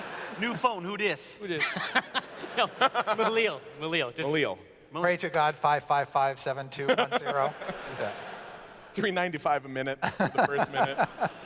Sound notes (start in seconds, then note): 1.6 laughs